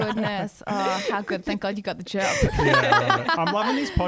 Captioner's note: laughs